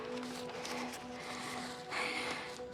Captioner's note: breathes heavily